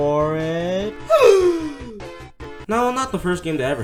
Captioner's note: surprised scream